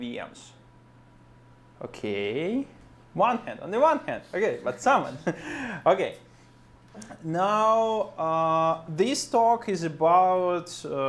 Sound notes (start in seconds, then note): 5.0 laughs